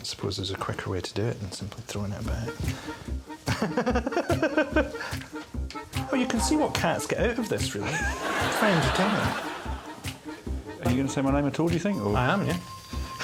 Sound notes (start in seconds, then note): 3.4 laughing